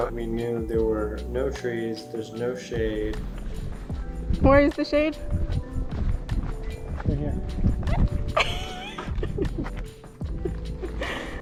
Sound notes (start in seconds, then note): 8.3 laughs